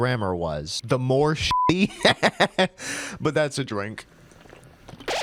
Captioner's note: laughter